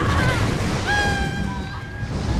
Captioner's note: cackles; thunder rumbling